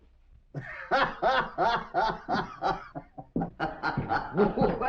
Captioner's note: hoppy laughter